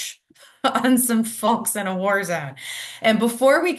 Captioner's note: laughs